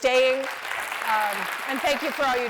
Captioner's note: applause